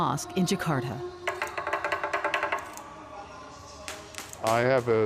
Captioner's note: stick tapping